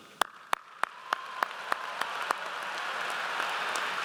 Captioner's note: audience applauds